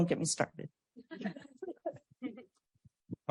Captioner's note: laughter